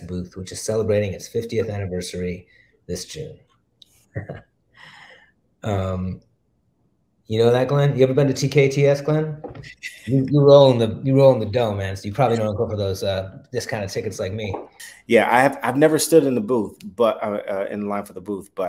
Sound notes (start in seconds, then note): 4.1 chuckles; 9.5 chuckles